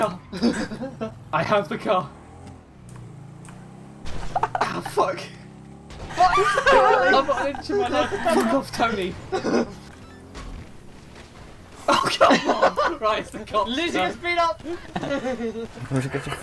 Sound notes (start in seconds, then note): 0.3 sadistic chuckles; 4.3 giggling; 6.0 group laughter; 14.6 laughs